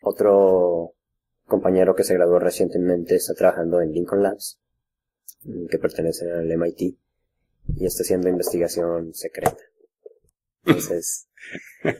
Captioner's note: laughs